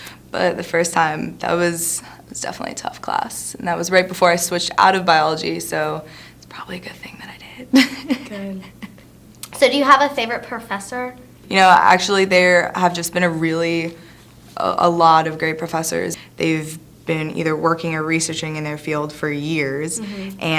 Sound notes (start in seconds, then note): 6.3 whispers; 7.7 laughs softly